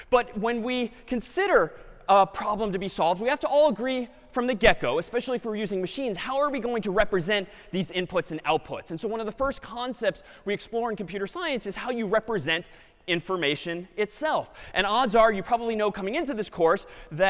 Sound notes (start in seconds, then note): none